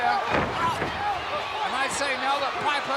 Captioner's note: blows thudding